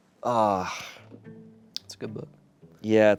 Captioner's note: sighs